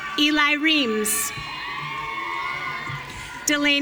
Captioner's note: audience cheering